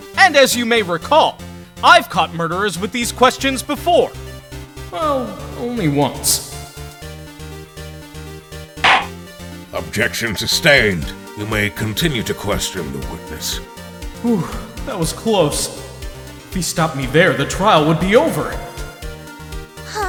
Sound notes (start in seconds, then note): 8.9 slam!